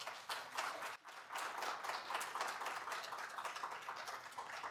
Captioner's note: applause